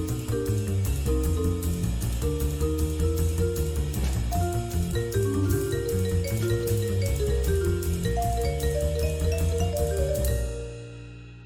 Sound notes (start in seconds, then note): none